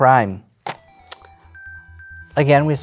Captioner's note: cards slap on table